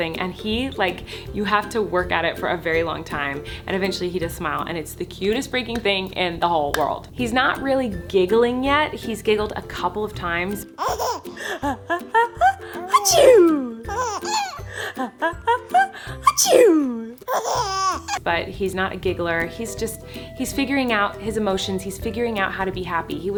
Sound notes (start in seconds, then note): 10.8 giggling; 12.8 sneezing mockingly; 13.5 giggles; 16.2 sneezing; 17.2 giggles